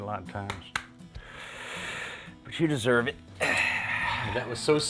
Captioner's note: breathes heavily